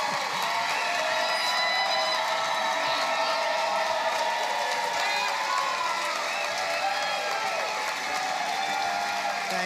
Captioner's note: applause